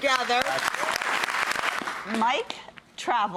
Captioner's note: audience applauding